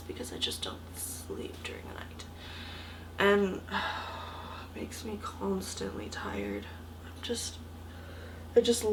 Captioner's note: sigh